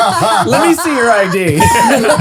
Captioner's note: all laughing